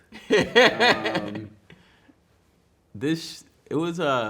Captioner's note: man laughing